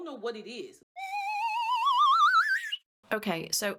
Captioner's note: slide whistle sound effect